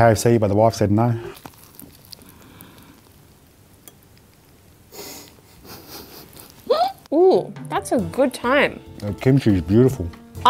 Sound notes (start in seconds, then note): 5.4 laughs